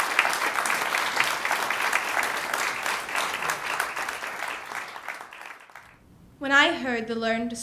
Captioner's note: ^applause^